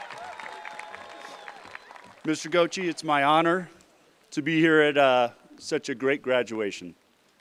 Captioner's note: cheerpland apause